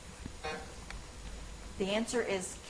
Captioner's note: timer buzzes